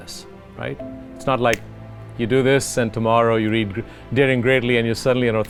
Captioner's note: snapping